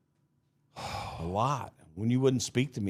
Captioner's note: sighs